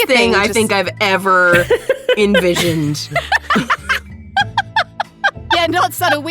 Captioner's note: EVERYONE laughs